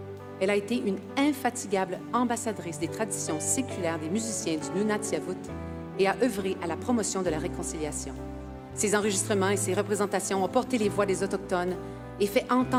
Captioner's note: speaking French